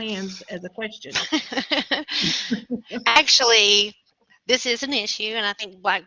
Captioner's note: laughter